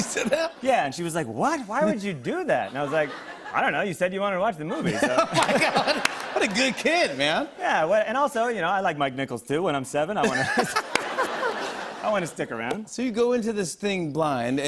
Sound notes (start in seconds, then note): 4.7 laughter; 10.2 laughter